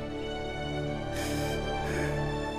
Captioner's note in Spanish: solloza